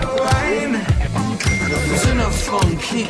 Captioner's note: phone dinging